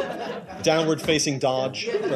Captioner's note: laughter